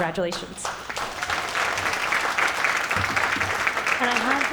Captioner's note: cheers and applause